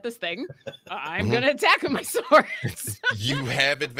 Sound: laughs

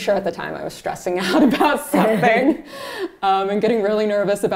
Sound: laughs

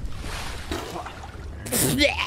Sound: Geornge Coughs Up Water

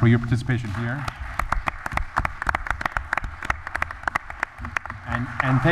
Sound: applause

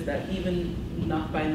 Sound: none

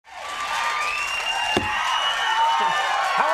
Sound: crowd cheering

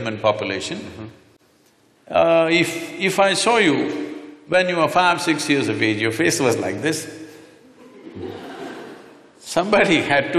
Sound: laughter

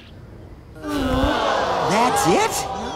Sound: people groaning

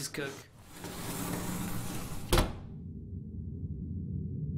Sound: door closes. Ominous music

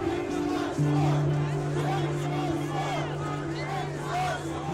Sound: crowd chanting

